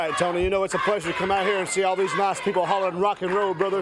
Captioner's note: crowd chants